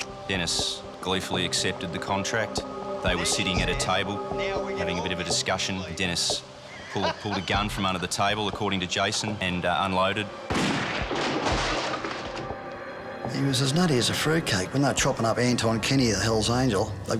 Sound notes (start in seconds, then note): 10.5 gun firing